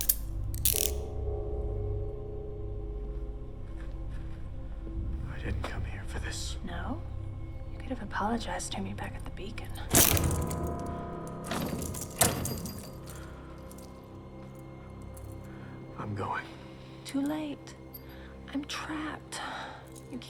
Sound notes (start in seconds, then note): 0.0 handcuffs click; 3.6 suspenseful music; 9.8 chains rattling; 10.1 suspenseful music